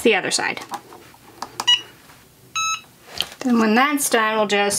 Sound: machine beeps

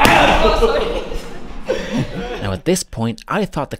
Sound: laughs

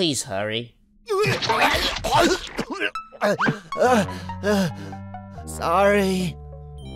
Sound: vomiting sounds

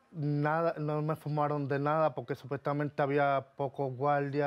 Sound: speaking Spanish

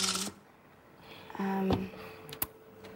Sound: none

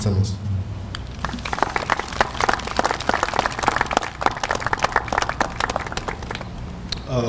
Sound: applause

